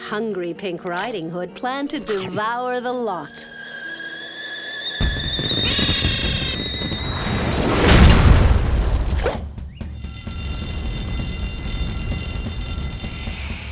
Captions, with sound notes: THAT HUNGRY PINK RIDING HOOD PLANNED TO DEVOUR THE LOT. (kettle whistles) (alarm ringing)